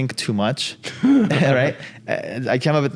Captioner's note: laugh